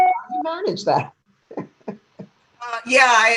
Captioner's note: chuckles